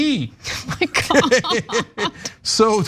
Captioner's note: laugh